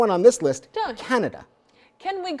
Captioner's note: mumbles